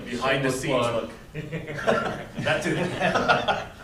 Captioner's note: laughter